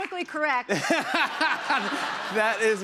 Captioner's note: laughter